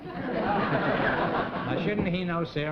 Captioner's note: laughter